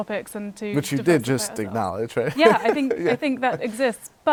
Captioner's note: laughter